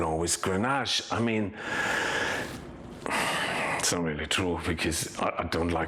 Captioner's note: sighing deeply